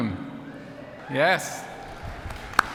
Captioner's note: applause